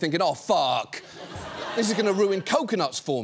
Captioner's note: audience laughs